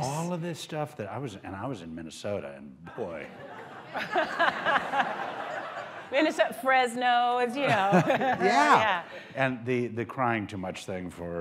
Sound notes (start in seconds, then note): 3.2 laughter